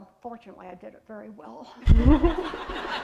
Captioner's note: laughter